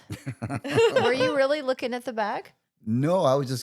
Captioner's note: laughing